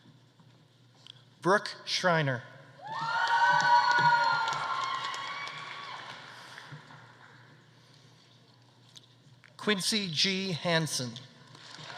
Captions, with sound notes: Brooke Schreiner. (audience applauding) (audience cheering) Quincy G. Hansen.